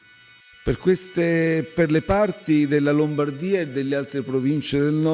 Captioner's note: man speaking a foreign language